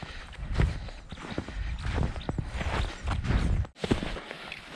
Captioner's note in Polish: Ćwierkanie